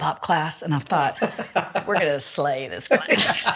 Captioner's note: laughs